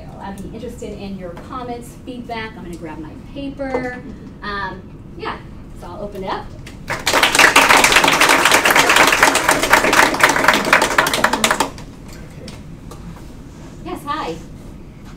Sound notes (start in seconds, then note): 6.8 applause